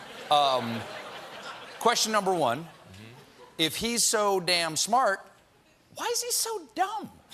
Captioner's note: laughter